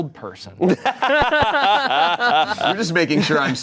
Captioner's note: laughing